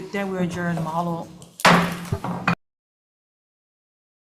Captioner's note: gavel bangs